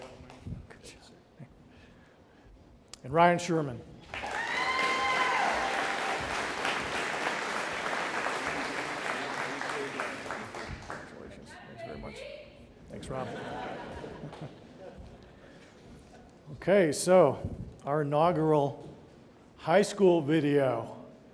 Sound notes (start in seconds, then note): 4.1 audience applauding; 13.1 audience laughing